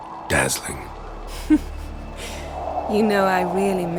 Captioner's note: chuckle